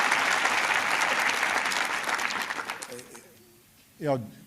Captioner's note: applause